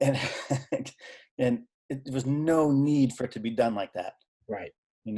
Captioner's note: laughing